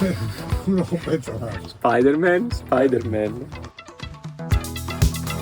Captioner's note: humming